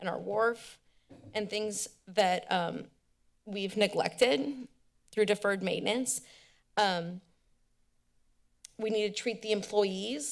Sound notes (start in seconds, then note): 7.0 tongue clicks